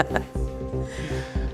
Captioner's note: laughing